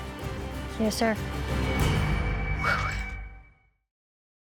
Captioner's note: exhales